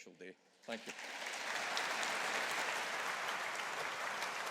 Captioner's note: audience applauding